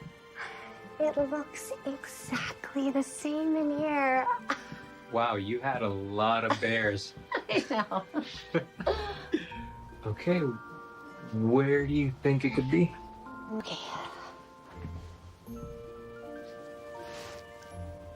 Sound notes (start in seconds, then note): 7.2 both chuckle; 15.1 instrumental music